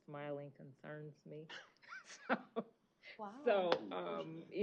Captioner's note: chuckle